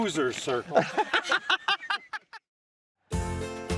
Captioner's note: laughing; light music